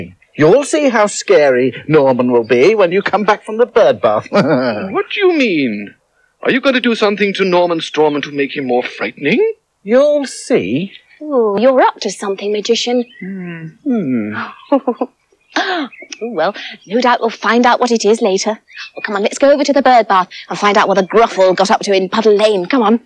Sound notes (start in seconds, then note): 4.0 chuckles; 14.0 chuckles